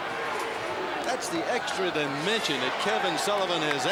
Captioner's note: crowd cheering